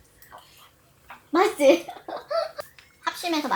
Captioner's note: laughs